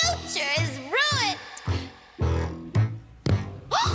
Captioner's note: footsteps